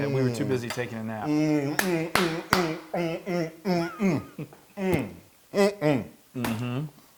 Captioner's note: applause